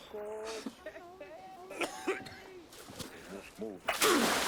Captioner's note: Thomas coughing and sputtering